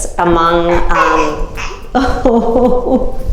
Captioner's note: laughs; baby cries